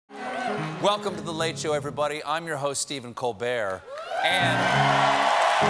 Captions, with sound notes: ( CHEERING ) WELCOME TO "THE LATE SHOW," EVERYBODY. I'M YOUR HOST, STEPHEN COLBERT.